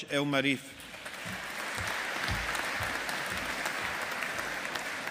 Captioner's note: audience applauding